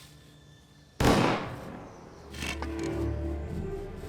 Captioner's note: gunshot